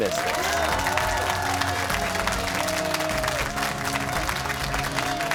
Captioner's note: cheers and applause